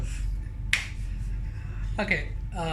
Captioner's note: hands clapping